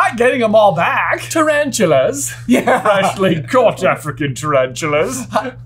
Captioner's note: laughs